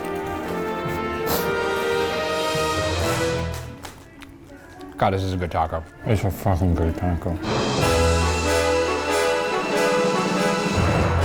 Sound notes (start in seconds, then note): 0.0 bright adventure music; 3.4 both crunching; 7.4 bright adventure music